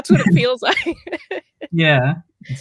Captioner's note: laughs